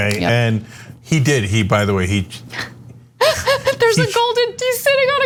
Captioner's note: laugh